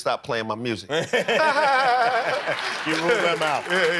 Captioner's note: laughter